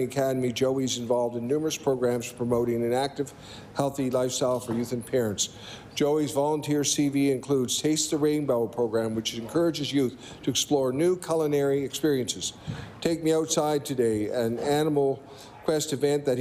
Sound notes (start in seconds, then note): none